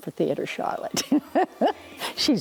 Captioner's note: laughing